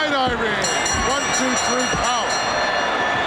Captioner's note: bell ringing